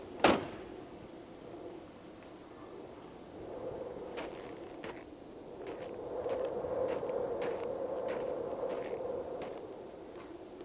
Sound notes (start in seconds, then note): 0.2 door thuds; 4.2 footsteps crunching; 4.2 wind howling